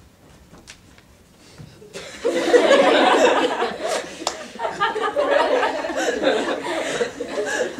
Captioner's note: audience laughter